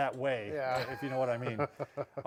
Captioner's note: chuckles